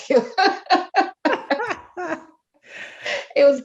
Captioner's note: laughs